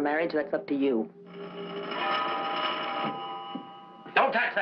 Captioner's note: phone ringing